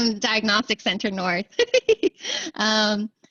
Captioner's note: laughter